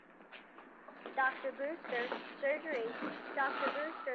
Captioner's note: woman on PA